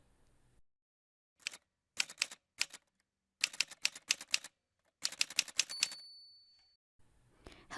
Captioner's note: typewriter sounds